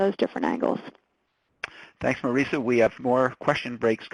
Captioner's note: voiceover